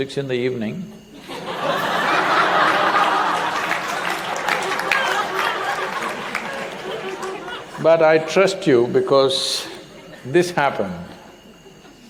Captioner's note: laughter/Applause